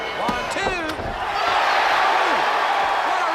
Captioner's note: crowd cheering